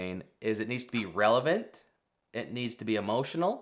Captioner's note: screen whooshing